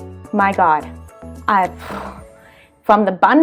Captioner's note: sighs